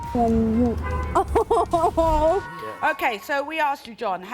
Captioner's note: laughter